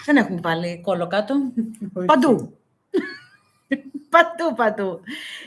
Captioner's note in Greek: γέλια